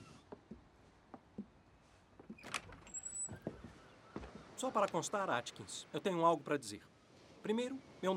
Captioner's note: none